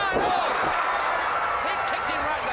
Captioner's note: crowd cheering